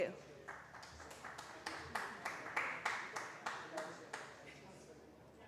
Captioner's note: applause